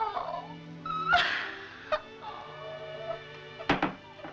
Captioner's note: crying